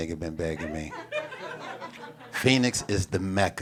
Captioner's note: audience laughs